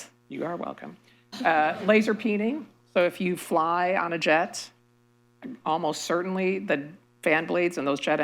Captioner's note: laughter